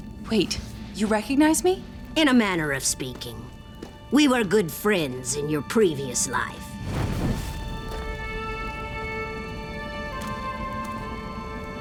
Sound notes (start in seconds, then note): none